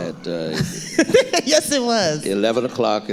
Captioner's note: laughing